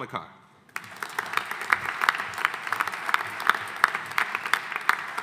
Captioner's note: audience applauding